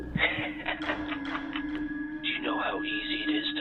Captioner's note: laughing